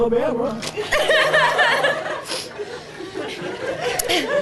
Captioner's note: all laughing